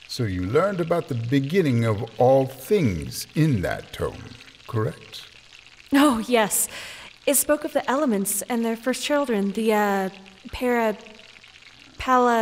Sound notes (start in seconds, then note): none